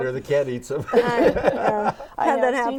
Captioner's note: laughing